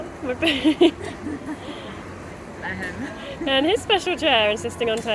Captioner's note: laughter